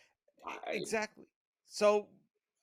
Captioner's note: murmuring